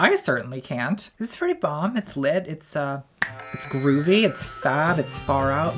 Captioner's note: clicks